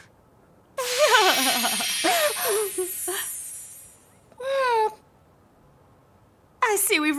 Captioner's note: magic chiming; queen laughing